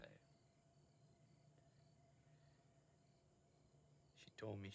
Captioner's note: crickets chirping